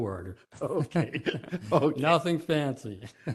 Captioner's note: laughter